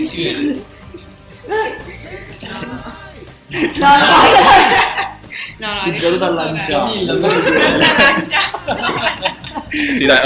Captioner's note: laugh